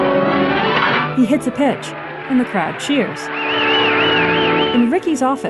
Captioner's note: cheering and whistling